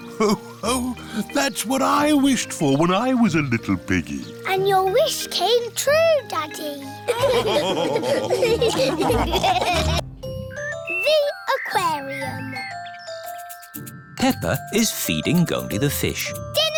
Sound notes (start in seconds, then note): 7.0 all laughing